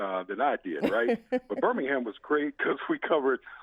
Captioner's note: chuckles